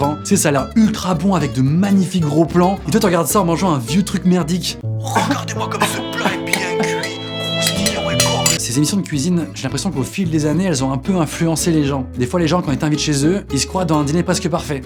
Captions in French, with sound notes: T'sais, ça a l'air ultra bon avec de magnifiques gros plans, et toi tu regardes ça en mangeant un vieux truc merdique. *Pleure* *Musique triste* Ces émissions de cuisine, j'ai l'impression qu'au fil des années elles ont un peu influencé les gens. Des fois les gens quand ils t'invitent chez eux, ils se croient dans "Un dîner presque parfait".